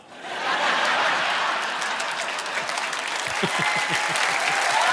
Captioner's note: audience laughing; chuckles; audience applauding